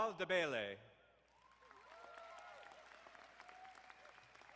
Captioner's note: crowd applauding